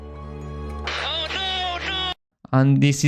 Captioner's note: Lewis Hamilton radio